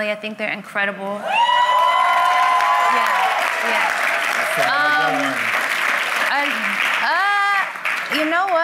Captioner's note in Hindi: वाहवाही